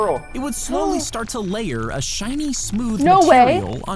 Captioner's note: gasps